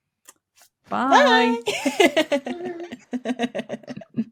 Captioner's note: chuckles